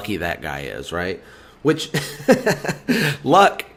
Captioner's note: laughs